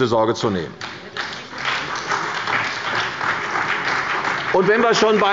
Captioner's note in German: Beifall bei der CDU und dem BÜNDNIS 90/DIE GRÜNEN